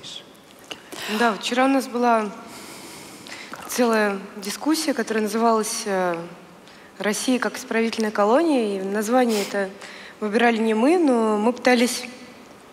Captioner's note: foreign Language